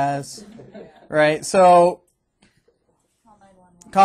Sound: students chuckling

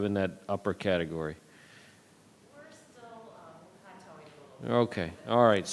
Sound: speaks faintly

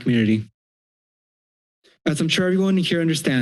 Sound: silence

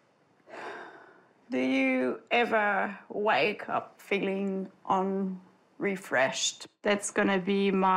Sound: sighs

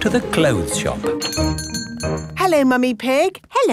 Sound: doorbell chiming

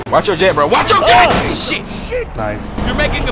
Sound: crash

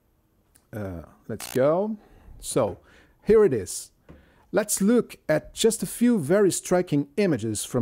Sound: camera shutter clicks

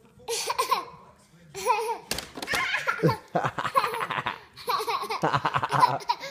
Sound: laughter

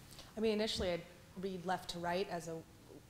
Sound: voiceover

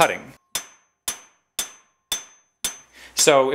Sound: hammering

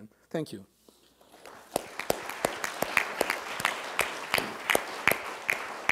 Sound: audience applauding

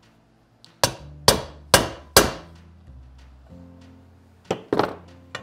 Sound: hammer tapping

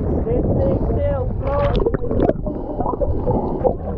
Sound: water sound

